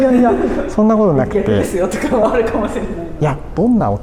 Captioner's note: laughs